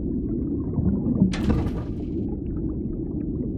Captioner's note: underwater metallic thud